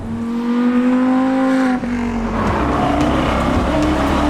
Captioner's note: engine roaring